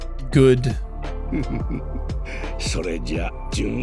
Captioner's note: silly Little Laugh